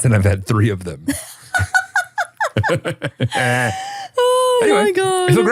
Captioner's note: both laughing